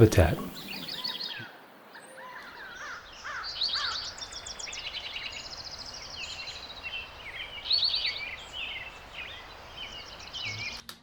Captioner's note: birds chirp